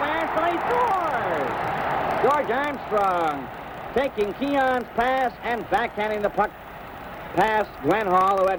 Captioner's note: crowd cheers